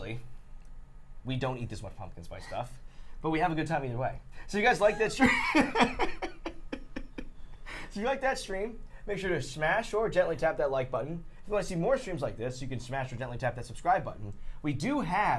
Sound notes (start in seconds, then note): 7.5 laughter